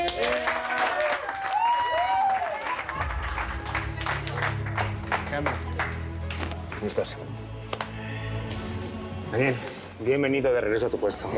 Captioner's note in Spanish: aplausos; gritos y exclamaciones